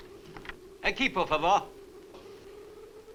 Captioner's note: Marlowe speaks Spanish